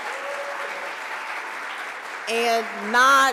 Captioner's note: audience applauds